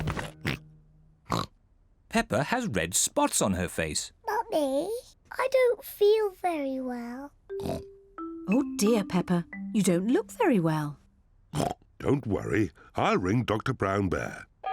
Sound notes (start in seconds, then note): 1.2 oinks; 7.6 oinks; 11.5 oinks